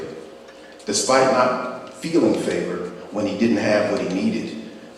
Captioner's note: none